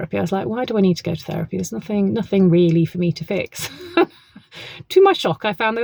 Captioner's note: laughs